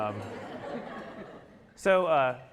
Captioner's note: audience laughing